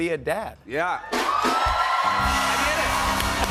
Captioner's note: cheers and applause